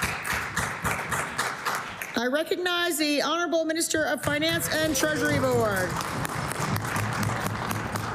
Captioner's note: applause